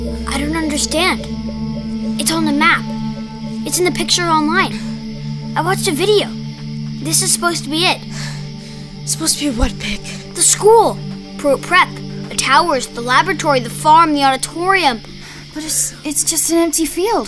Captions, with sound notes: >> I don't understand. It's on the map. It's in the picture online. I watched a video. This is supposed to be it. >> [Breathing heavily] Supposed to be what, Pick? >> The school. Pruitt Prep. The towers, the laboratory, the farm, the auditorium. >> But it's, it's just an empty field.